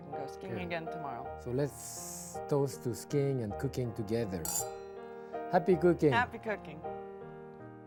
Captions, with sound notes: so we can go skiing again tomorrow. - So, let's toast to skiing and cooking together. (glasses clinking) Happy cooking. - Happy cooking.